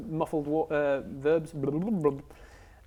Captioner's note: bubble bubble